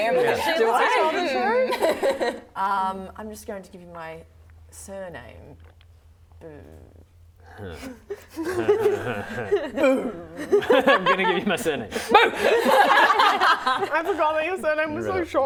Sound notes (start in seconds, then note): 12.7 laughing